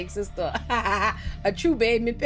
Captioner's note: laughs